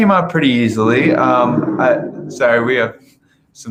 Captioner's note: engines rumbling